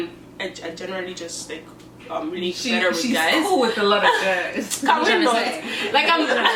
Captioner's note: sarcastically